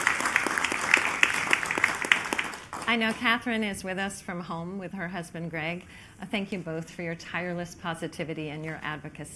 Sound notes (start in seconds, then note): 2.8 applause